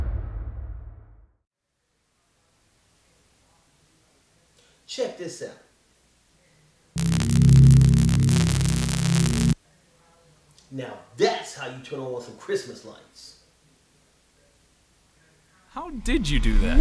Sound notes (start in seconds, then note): 6.9 energy Sound Effect